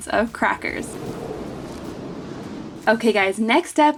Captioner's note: graphics whoosh